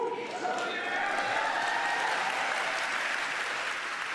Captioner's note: cheers and applause